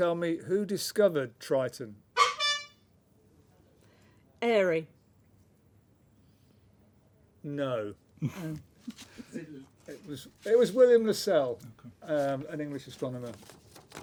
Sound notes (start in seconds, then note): 2.1 honk